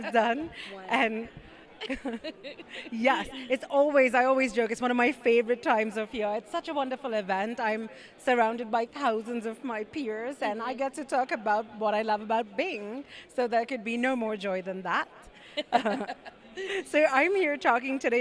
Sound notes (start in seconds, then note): 1.8 laugh; 15.6 laugh